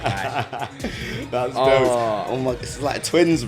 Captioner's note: laughs